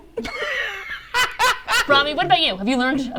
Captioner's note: Ricky laughs